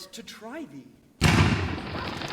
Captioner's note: gunshot